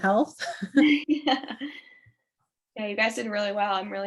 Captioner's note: both laughing